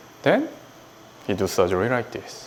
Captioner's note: none